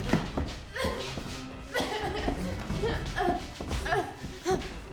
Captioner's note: Claire groaning